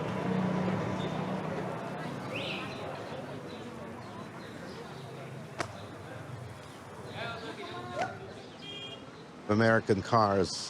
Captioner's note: horn honks